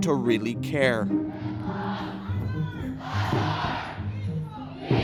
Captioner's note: protesters shouting